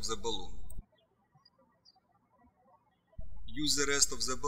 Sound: birds chirping

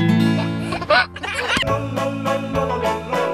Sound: laughing; upbeat music

